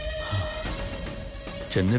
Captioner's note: Sighs